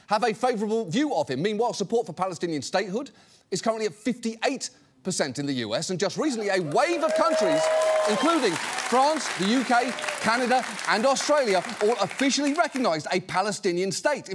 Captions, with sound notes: have a favorable view of him. Meanwhile, support for Palestinian statehood is currently at 58 percent in the US. And just recently, a wave of countries... (AUDIENCE CHEERS, APPLAUDS) ...including France, the UK, Canada, and Australia, all officially recognized a Palestinian state.